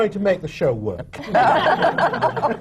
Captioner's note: laughter